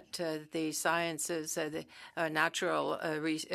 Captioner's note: speaking French